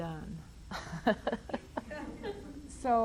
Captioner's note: laughs